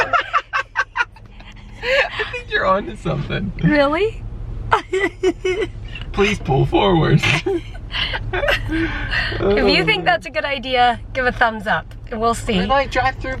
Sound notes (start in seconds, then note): 0.0 laughing; 4.7 laughing; 7.2 laughter